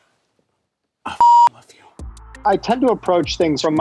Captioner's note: beep